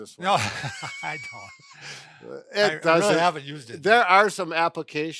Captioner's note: laughs